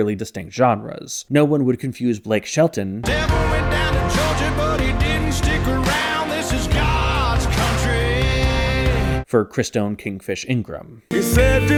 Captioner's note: bang